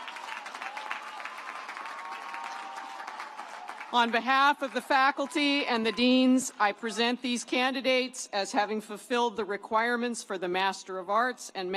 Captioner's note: applause